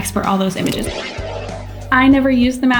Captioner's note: air whooshing